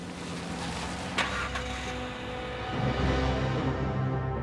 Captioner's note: car starts; dramatic music